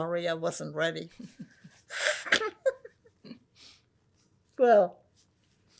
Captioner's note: laughing; wiping nose